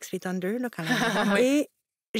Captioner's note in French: rires